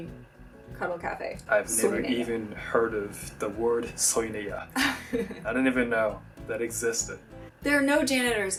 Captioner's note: laughs